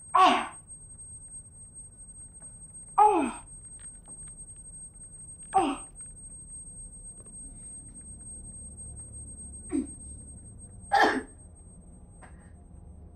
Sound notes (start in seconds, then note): 0.1 Sarah in pain; 3.0 exclaims in pain; 4.1 tooth crunching; 10.8 Sarah spits